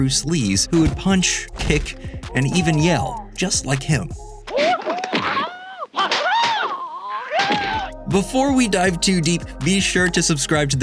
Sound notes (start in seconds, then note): 5.3 kung fu exclamations